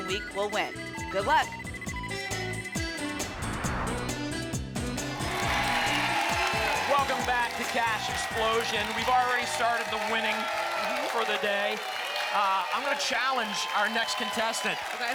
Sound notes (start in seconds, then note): 3.0 whoosh; 5.3 applause and cheering